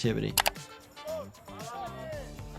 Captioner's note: keyboard clicking